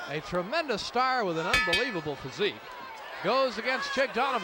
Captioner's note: bell rings